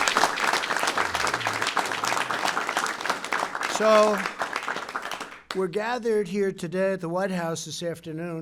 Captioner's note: applause